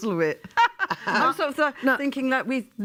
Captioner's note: laughs